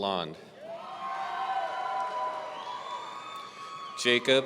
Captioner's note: audience cheering